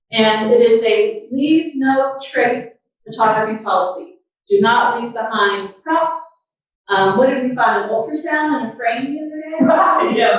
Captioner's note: laughter and talking